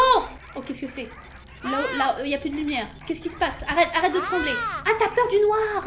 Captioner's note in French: bip bip qui s'arrête pas